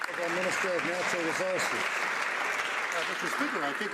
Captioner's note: some Applause